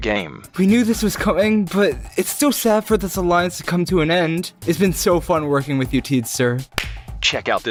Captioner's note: clap